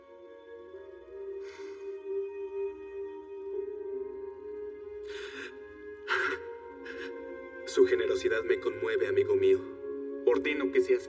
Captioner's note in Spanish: Solloza